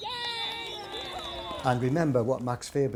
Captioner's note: jubilant cheers; referee blows final whistle